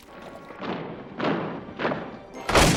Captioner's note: heavy footsteps approaching